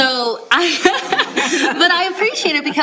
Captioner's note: laughter